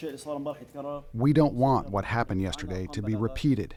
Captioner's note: through translator